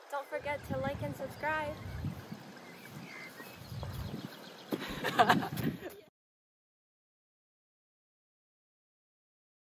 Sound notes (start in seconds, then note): 4.8 girl laughing